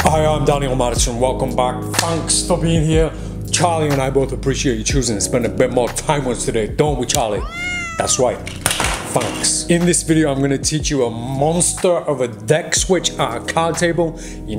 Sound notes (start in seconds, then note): 7.2 cat meows